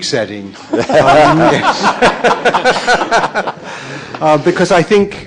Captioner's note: audience laughing